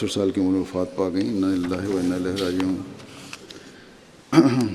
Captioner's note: Arabic